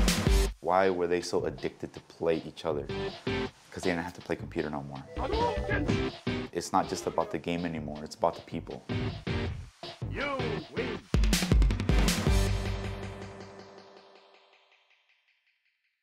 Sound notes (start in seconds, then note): 2.7 game music; 10.1 game music; 10.2 game voice